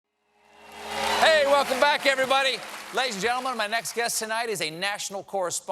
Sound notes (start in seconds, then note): 0.3 cheers and applause; 1.0 band playing